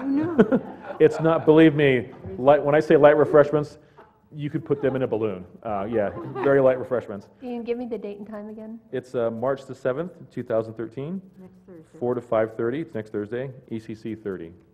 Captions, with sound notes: not, believe me, when I say light refreshments, you could put them in a balloon. [laugh] yeah, very light refreshments. >> Can you give me the date and time again? >> It's March the seventh, 2013, 4 to 5:30, next Thursday, ECC 30. >>